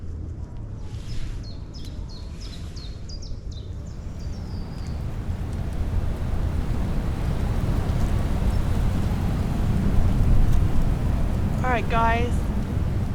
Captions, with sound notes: *birdsong & distant music* *wind* alright guys